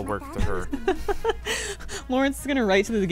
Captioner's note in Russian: смеется